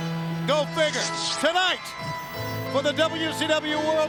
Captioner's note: electricity crackling